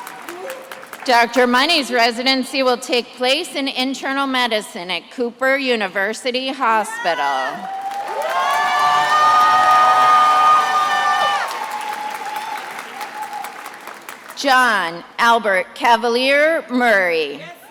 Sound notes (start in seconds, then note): 7.6 attendees applauding and cheering